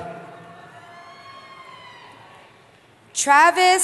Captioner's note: cheering